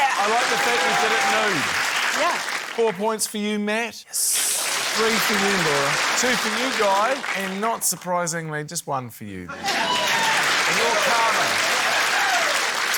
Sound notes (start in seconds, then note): 0.0 applause; 4.4 applause; 9.5 cheering, applause